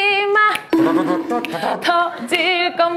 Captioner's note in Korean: 입으로 연주하는 트럼펫